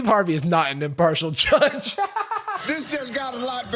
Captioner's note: laughs